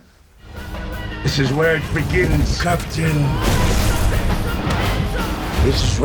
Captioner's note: voiceover